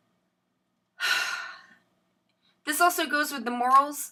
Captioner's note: sighs